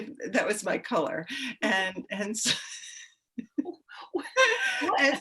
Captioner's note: women laughing